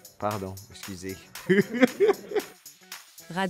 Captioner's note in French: rires